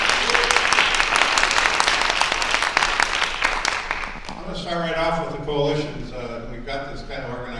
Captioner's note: applause